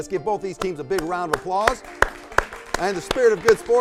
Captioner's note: crowd applauds